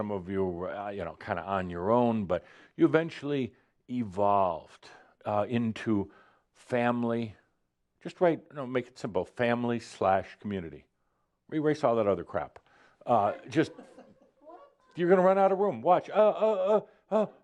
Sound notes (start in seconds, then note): 13.6 a few chuckles